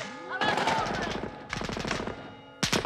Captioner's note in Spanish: bullets strike bell